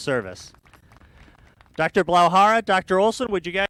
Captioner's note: applause